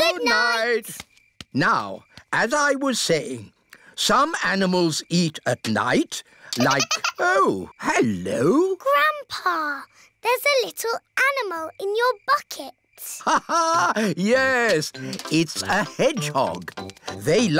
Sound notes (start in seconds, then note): 6.5 giggling